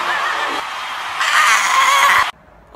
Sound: screams in Aztec

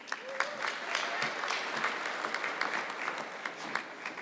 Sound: audience clapping

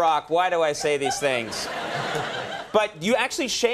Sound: audience laughing

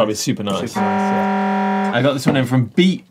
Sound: buzzer

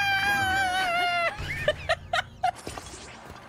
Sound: laughter

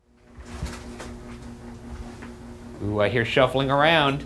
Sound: object rustling

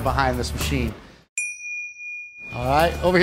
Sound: pings

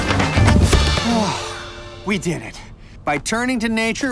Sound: sighs

